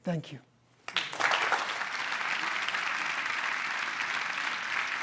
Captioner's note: applause